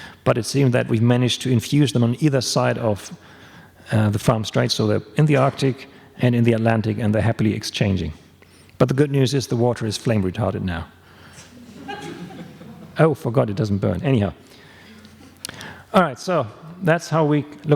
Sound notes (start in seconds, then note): 11.5 laughs